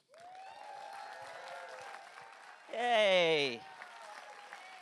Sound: audience applause

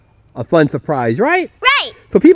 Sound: voiceover

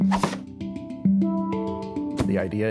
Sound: board thwacks

